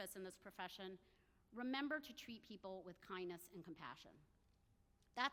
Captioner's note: none